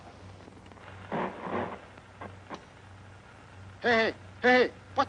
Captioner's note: static hisses; speaking in foreign language